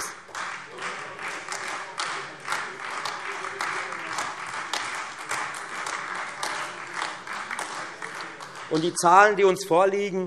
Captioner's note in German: Beifall Freie Demokraten und AfD